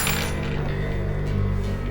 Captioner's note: coins clinking